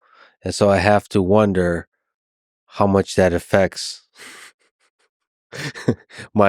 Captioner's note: laughs